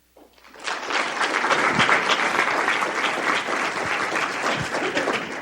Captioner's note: audience applauding